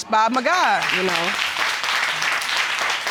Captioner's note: applause